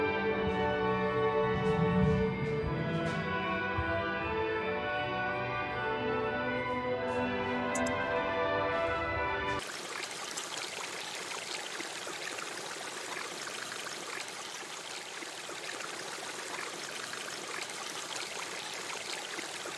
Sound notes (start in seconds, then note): 6.9 water flowing